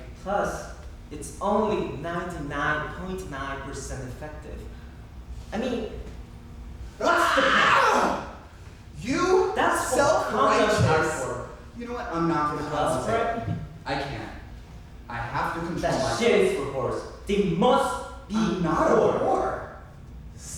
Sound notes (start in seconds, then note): 7.0 Nine squeals